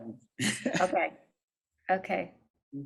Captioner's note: chuckles